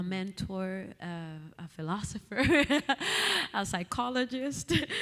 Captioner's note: laughing